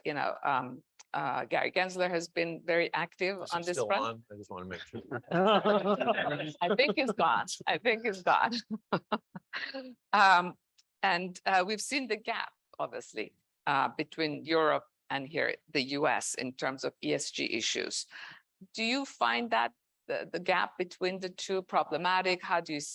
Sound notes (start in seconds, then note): 4.7 man laughing; 9.6 woman chuckling